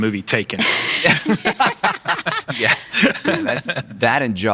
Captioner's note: laughing